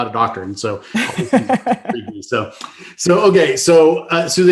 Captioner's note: laughing